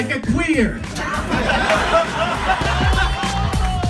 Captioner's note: audience laughs; upbeat techno music